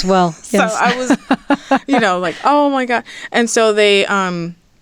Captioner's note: hearty laughter